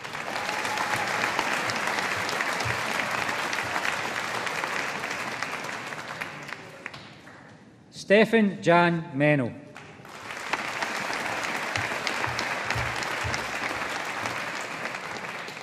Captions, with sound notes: (AUDIENCE APPLAUDING) Stefan Jan Mennel. (AUDIENCE APPLAUDING)